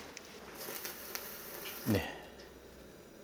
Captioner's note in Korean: 치지직